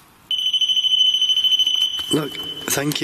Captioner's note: digital beeping